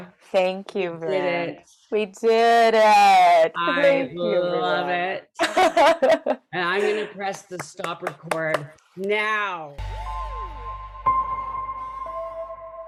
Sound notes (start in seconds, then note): 5.4 laughs; 9.8 dramatic music